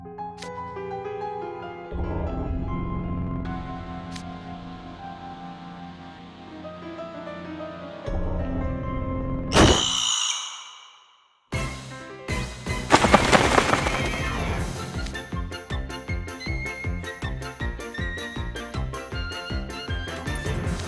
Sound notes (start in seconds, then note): 9.6 screeches